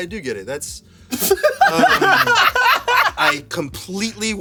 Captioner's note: everyone laughs